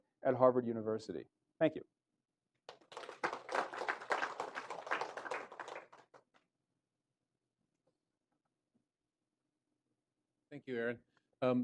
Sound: applause

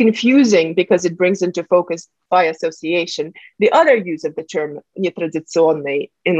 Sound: russian

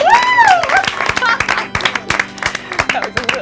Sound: cheering

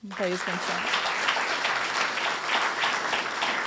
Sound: applause

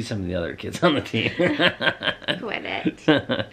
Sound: laughs

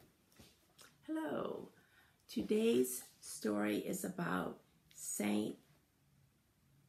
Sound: is speaking and signing

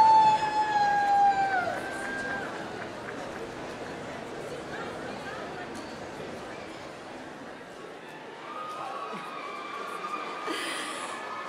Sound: applause

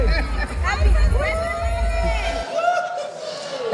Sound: crowd cheering

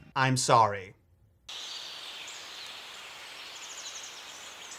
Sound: birds chirping

